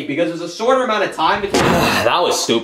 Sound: door thuds

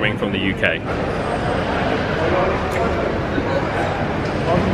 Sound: guests chattering

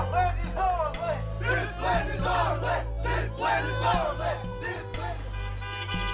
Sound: chanting

